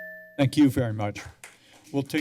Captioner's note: applause